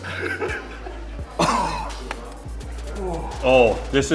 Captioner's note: coughing